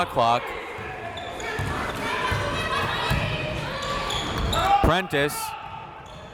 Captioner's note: crowd members shouting